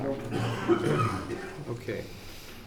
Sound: murmuring

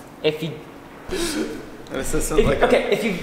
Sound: laughs

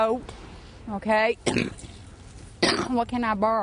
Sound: cough

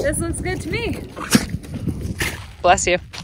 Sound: Camper sneezes

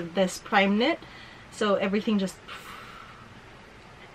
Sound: pffffff

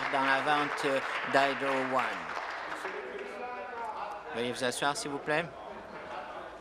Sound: applause

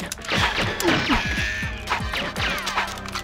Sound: gunfire

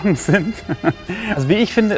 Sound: he laughs

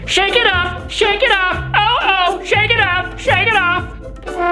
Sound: none

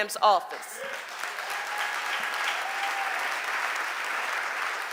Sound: audience applauding

